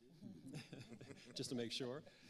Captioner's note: panelists laughing